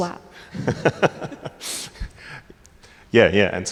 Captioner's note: laughing